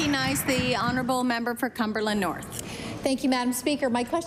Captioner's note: applause